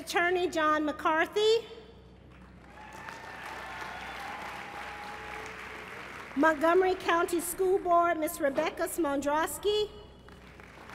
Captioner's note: applause